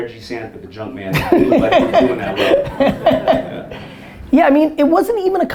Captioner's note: Daymond drowned out by Gary's laughter